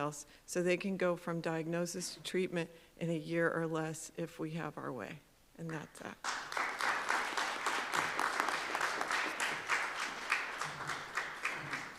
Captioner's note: applause